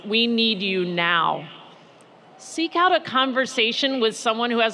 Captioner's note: none